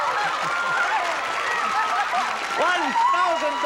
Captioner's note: laughing